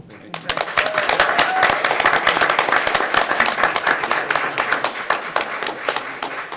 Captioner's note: attendees applauding and cheering